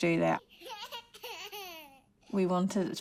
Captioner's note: laughs